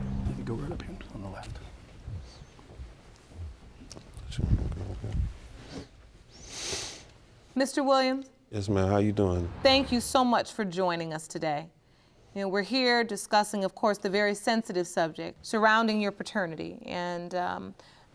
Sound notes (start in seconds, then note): none